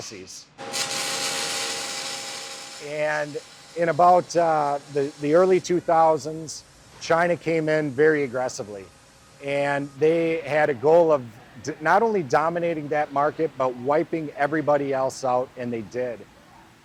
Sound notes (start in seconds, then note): 2.2 sparks crackling; 2.2 tool humming